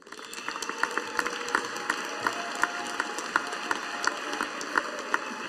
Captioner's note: audience applauding